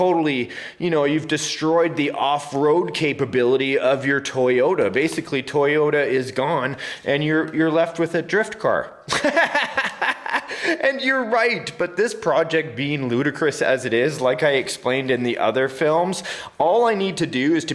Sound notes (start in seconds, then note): 9.1 laughs